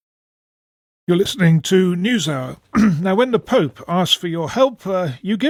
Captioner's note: clears throat